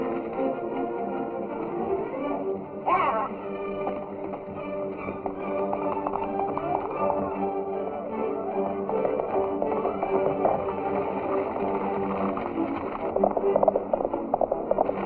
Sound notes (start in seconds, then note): 5.2 horse galloping; 8.5 energetic music; 13.0 horse galloping